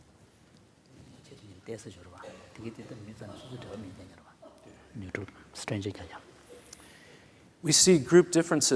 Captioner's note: foreign Language